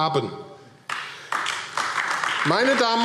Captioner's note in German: Beifall AfD